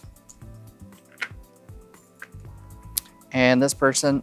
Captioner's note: chips clattering